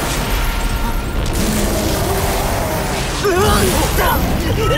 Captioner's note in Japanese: 雄たけび